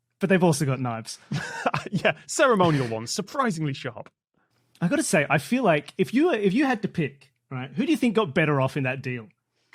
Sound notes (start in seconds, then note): 1.3 laughs